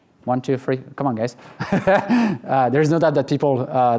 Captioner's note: laughs